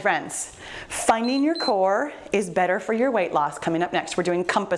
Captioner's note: timer beep